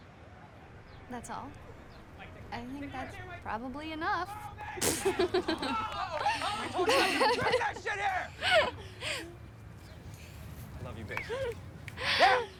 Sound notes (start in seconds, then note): 4.2 men chattering; 4.8 both laughing